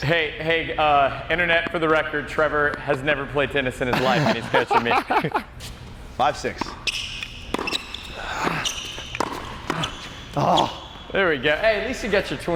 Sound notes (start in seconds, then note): 3.9 laughs